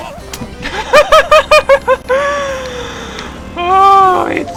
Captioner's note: laughter